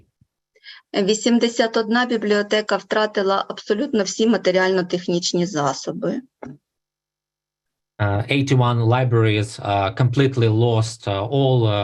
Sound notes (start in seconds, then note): 1.2 foreign Language Spoken